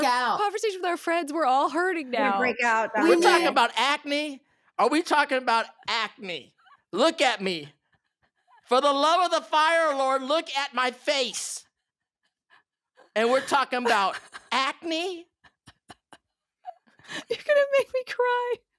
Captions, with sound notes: into our conversation with our friends. - We're all hurting now. - You're gonna break out. We talk about acne? Are we talking about acne? Look at me. For the love of the Fire Lord, look at my face. And we're talking about acne? [laughing] You're gonna make me cry.